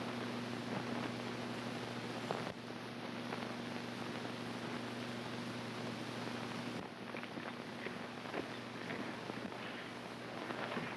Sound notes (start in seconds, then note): none